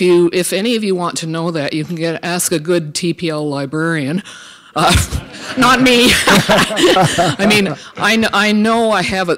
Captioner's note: laughter